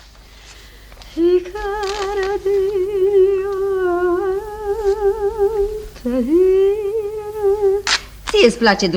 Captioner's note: hums a romance